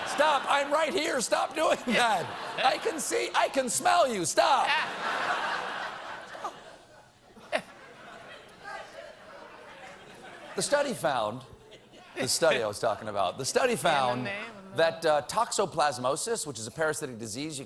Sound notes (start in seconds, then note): 4.6 laughter